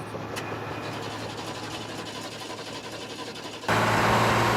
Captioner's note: engine sputters